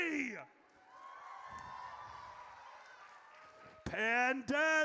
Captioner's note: audience cheers